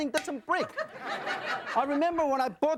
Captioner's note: audience laughing